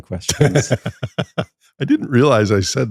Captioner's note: laughs